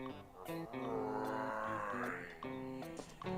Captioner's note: zombie groaning